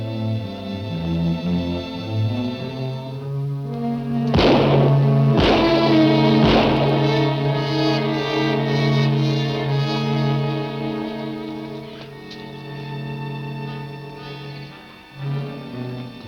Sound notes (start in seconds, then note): 4.3 gun firing; 4.6 ominous music; 12.5 soft suspenseful music